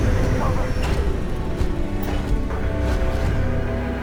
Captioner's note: rumbling